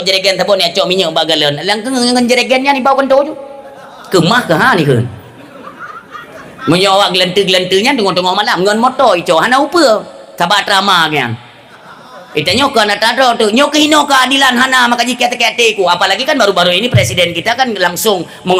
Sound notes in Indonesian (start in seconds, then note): 5.2 tertawa